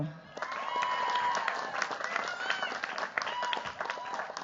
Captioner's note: cheers, applause